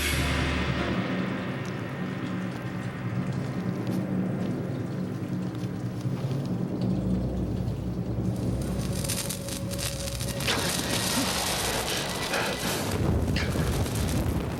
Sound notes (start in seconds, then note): 9.5 crackling